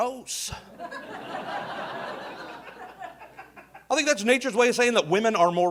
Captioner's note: audience laughing